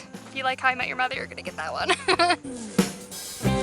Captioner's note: laughter